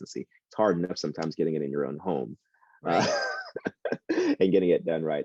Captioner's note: laughs